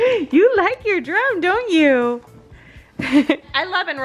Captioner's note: laughs